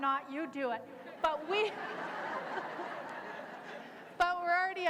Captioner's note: laughter